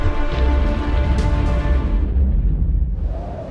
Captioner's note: steps thudding; ground rumbles; wind whooshing